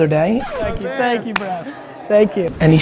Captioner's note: needle scratch